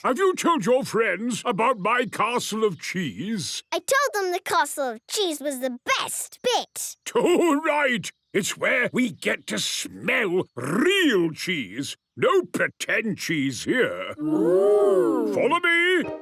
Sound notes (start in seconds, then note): none